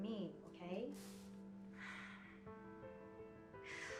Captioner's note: sighs